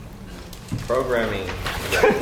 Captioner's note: laugh